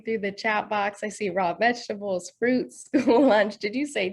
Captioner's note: laughs